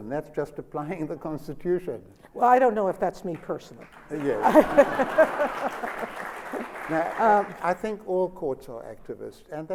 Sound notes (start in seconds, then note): 4.0 laughter and applause